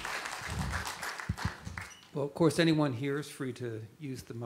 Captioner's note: applause